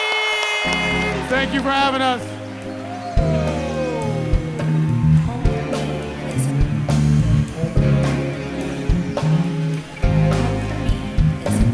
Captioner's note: applause